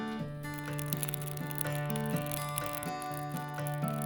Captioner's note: fire crackling